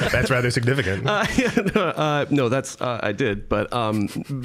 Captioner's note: laughing